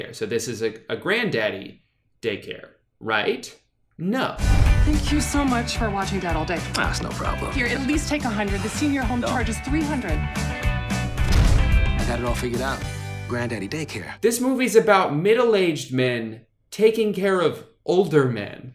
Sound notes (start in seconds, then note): none